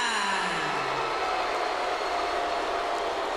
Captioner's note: crowd booing